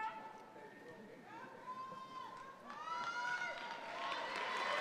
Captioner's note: audience applause